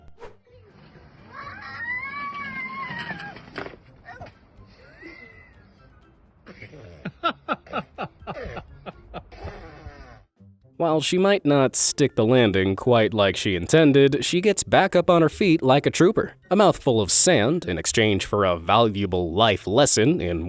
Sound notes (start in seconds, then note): 6.6 man laughing